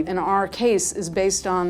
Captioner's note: none